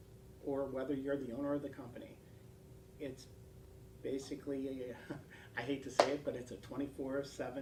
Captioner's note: laugh